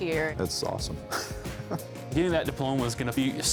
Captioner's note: laughing